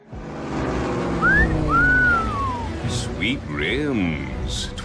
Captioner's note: whistles